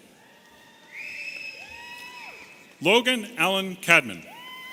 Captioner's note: audience cheering